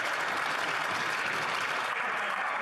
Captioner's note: some Applause